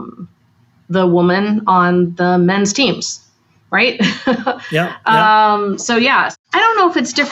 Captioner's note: laughs